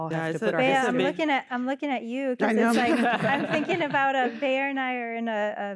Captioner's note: laughter